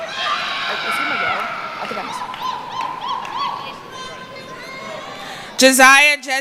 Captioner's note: screaming